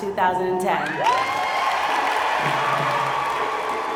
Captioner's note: cheers